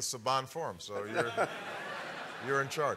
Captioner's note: laughter